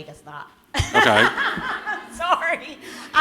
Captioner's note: laughter